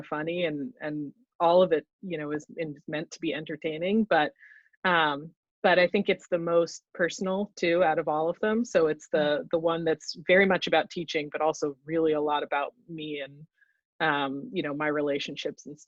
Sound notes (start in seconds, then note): none